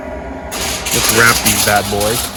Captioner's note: foil crackling